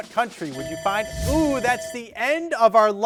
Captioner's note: bell ringing